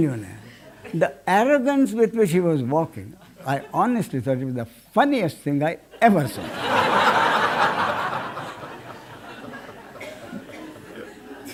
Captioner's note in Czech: smích